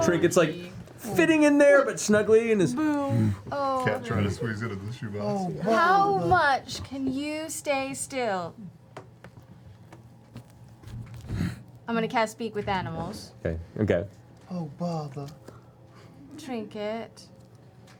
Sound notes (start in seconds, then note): 10.0 grunts; 15.1 Winnie the Pooh voice